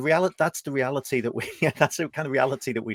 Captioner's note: chuckles